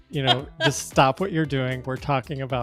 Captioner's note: chuckles